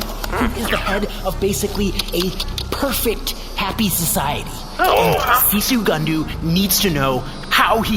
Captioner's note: everyone makes impressed noises